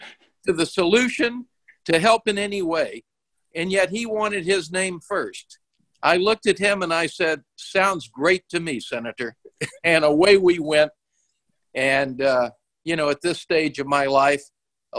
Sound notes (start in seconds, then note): 9.5 laughs